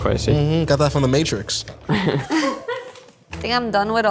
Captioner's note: group laughs